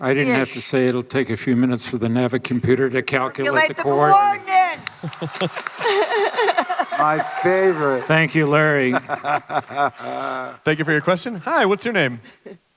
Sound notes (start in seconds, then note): 4.8 laughter; 8.6 Hamill laughing